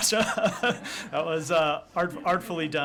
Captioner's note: laughter